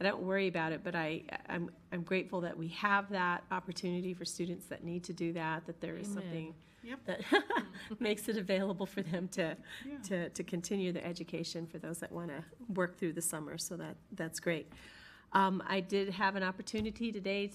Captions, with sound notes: I don't worry about it, but I'm grateful that we have that opportunity for students that need to do that. That there is something that (laughs) makes it available for them to continue the education for those that wanna work through the summer. So, that's great. I did have an opportunity today